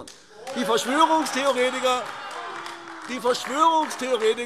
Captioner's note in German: Beifall AfD - Lachen und lebhafter Widerspruch